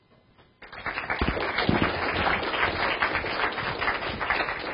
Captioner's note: audience applauding